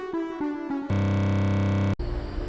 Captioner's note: glitch Sound